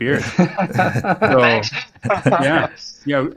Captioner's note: laughs